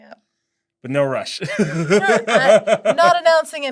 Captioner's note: laughs